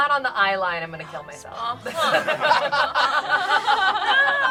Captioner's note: group laughs